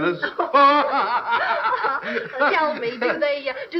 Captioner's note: laughing